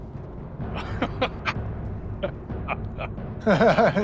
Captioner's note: laughs